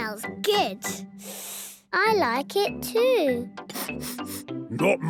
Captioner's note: sniffing; sniffs